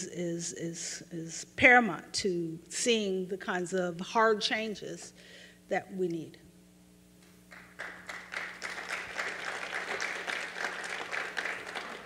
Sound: aplause

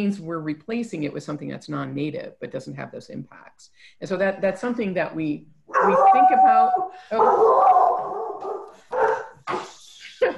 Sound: dog barks

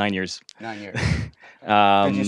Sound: laugh

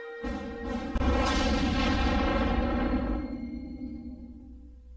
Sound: snippeted tornado and helicopter sounds

